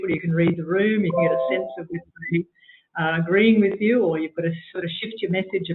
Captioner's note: audio distorts